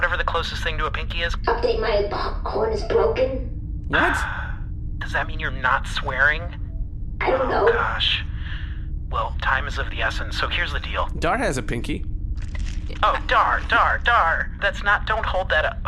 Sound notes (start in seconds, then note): 3.9 sighs; 12.4 squelching sounds